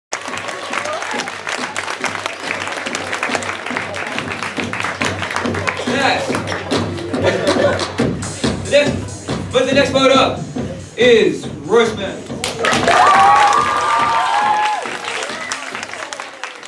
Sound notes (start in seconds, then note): 0.1 clapping; 12.6 audience Cheers/Claps Loudly